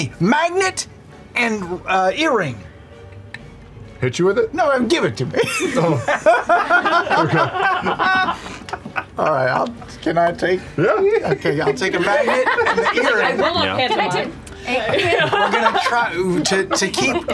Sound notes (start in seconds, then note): 5.4 laughter; 10.8 laughter